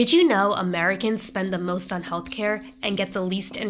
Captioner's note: coins clinking